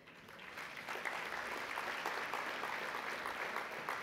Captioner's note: applause